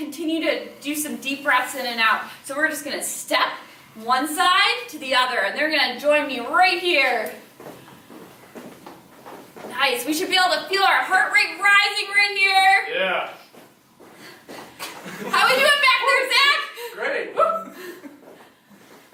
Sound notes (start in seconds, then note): 14.9 chuckling